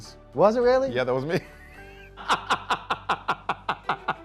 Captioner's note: laughs